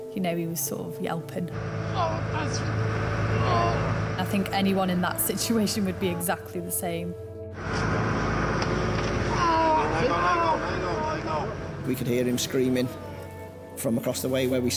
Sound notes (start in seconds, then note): 1.8 groans; 9.6 shouts